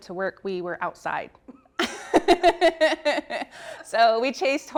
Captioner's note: laughs